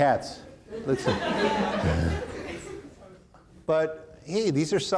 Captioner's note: audience laughing; chuckles